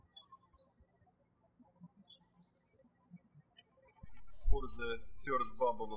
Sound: birds chirping

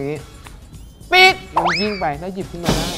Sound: sound of whistle

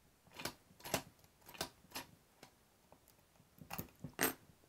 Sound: lock clicking

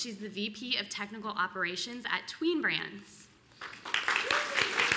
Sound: applause

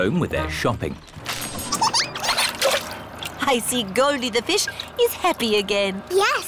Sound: giggles

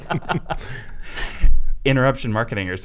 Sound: everyone laughing

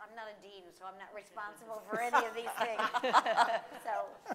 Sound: laughing

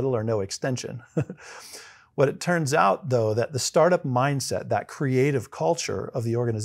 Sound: laugh

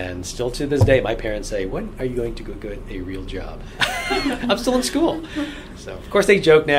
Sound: all laugh

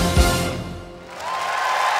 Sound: clapping

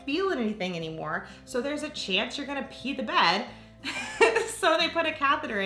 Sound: laughs

